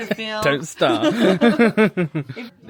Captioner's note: laughs